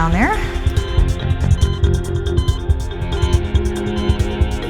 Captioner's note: machine beeping; tense music